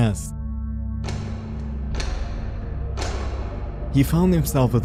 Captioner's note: reverberating switch clicks